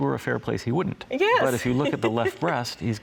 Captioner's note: laughs